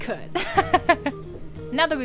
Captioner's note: laughter😋